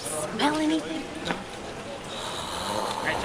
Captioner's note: frustrated growl